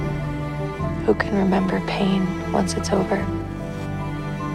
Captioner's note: voiceover